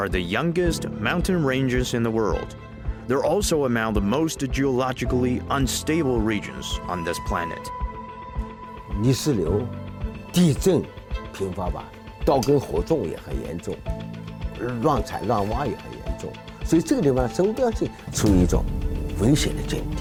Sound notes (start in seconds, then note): 8.4 speaking in foreign language; 13.2 dramatic music; 15.9 speaking in foreign language